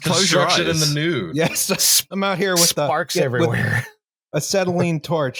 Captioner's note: laughs